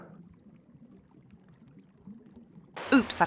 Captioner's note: water noises